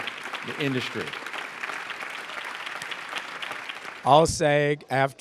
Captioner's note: applause